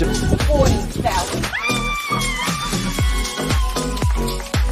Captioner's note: screams